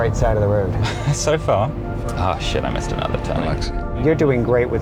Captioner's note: laughs